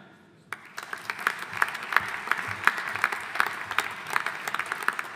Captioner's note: audience applauding